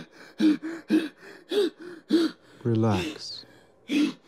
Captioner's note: panting